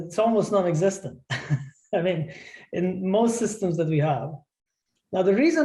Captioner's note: laughter